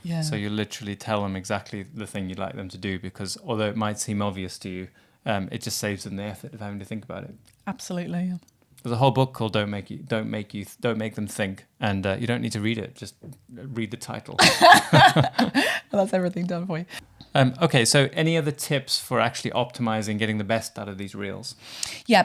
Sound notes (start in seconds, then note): 14.4 both laugh